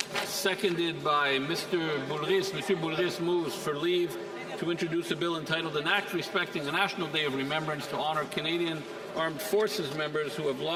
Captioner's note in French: voix de l'interprète